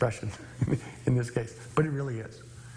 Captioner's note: chuckling